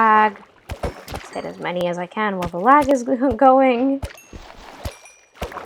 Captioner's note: laugh